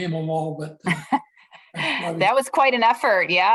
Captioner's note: laughter